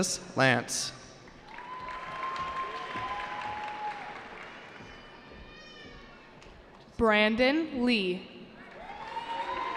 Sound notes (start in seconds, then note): 1.4 cheering; 8.6 cheering